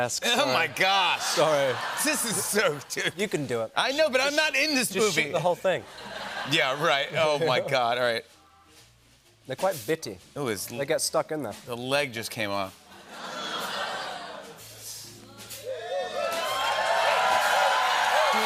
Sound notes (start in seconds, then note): 12.9 audience groans; 15.7 cheers and applause